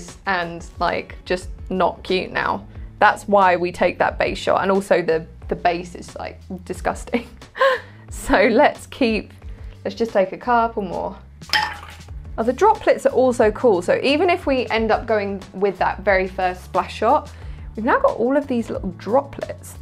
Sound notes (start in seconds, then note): 7.5 instructor laughing; 11.5 ice hitting glass